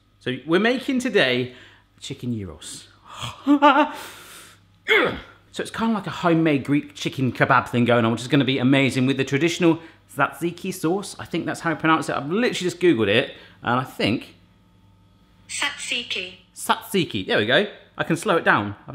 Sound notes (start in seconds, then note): 3.0 shouts; 4.8 grunts; 15.6 robotic Voice